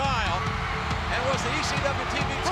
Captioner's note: audience cheering and clapping